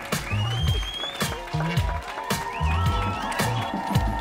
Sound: audience cheering; upbeat music plays; audience cheering

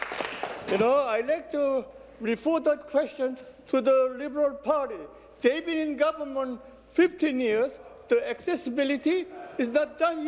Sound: applause

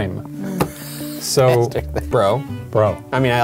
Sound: laughs; laughs

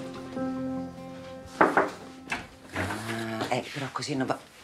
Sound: knocking at the door

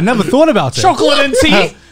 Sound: laughing

